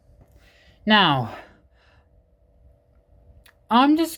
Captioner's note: fan noise